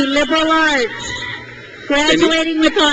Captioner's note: crowd cheers